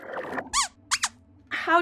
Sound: squeaks squeaks

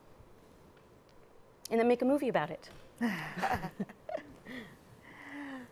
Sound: chuckles

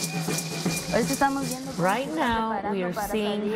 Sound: speaking in foreign language

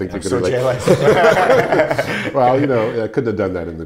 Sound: laughing

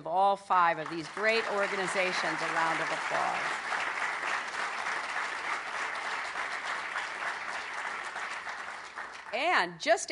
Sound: applause

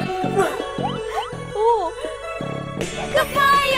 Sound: laughing

